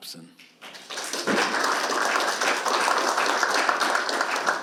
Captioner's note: audience applauds